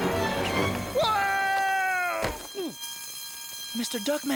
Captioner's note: body thuds, Duckman groans